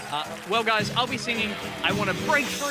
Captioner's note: cheering and applause